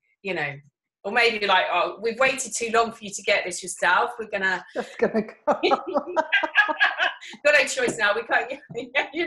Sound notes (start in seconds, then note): 4.7 laughing